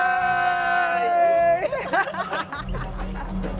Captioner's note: laughs